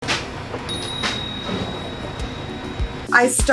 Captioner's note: timer chiming